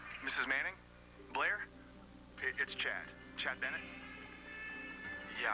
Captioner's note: answering machine beeps